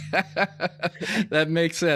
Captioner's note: laughs